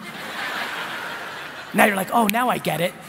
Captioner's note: laughing